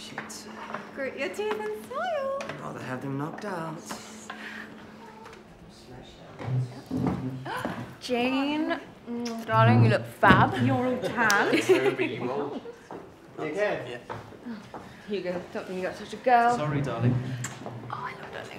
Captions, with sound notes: - Shit. - Grit your teeth and smile. I’d rather have them knocked out. - Jane, darling you look fab! - You're all tanned. - Toby you old… (Groans) - You OK? - Honestly Hugo, stop being such a girl. - Sorry darling.